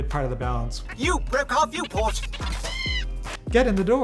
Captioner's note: pit droid shrieks